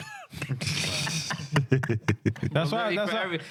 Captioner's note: both Laughing